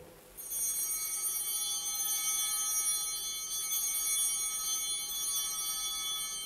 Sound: bell ringing

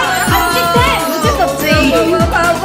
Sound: exclaims with pleasure

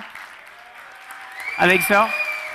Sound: audience cheering

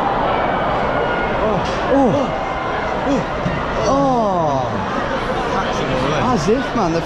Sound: exclaim excitedly

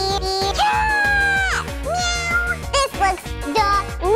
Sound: cat yowls

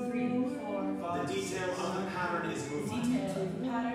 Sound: male Voice

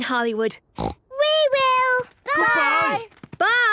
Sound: snort

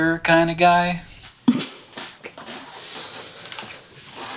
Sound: chuckling

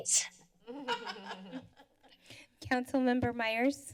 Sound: laughter

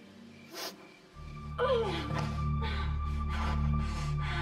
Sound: sniffles; grunting

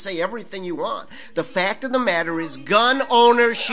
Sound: audience member shouting

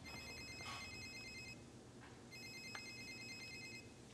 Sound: phone ringing

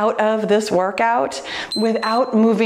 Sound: timer beeps

